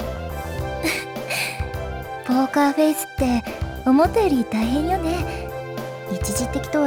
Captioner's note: giggle